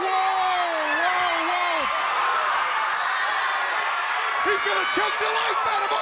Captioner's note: bell ringing